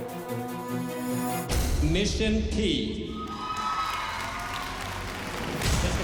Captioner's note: cheering and applause